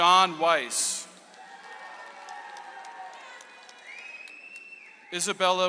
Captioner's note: audience applauds